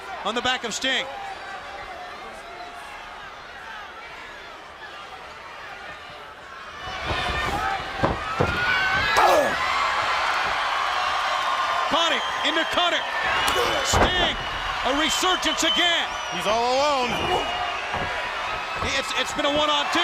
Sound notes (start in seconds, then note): 4.6 crowd chatter; 17.8 crowd cheering